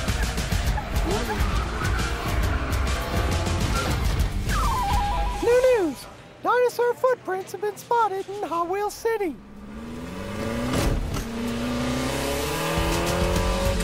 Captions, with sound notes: (tires screeching) (engine revs) - New news! Dinosaur footprints have been spotted in Hot Wheels City. (car engine roaring)